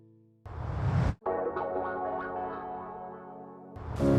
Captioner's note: whoosh; whoosh